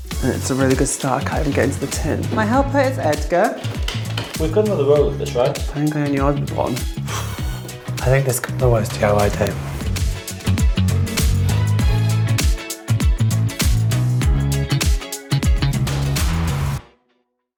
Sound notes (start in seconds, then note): 7.0 sighs; 9.2 upbeat music continues